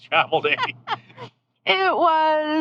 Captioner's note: laughing